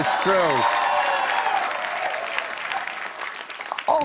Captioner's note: cheers and applause